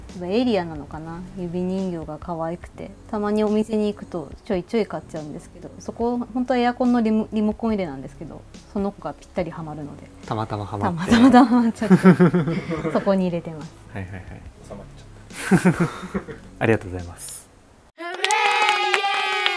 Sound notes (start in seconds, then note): 11.0 laughter